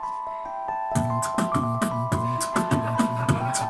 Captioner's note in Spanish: hace beatbox